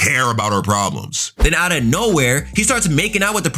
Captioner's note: air whooshing